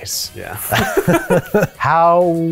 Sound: laugh

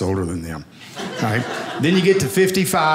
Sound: audience laughing

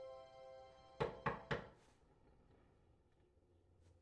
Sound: knocking on door

